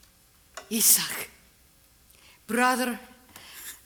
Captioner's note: none